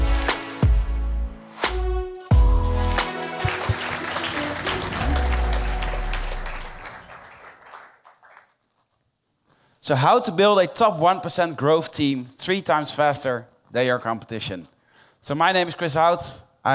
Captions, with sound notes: (applause) So, how to build a top one percent growth team three times faster than your competition. So, my name's Chris Out.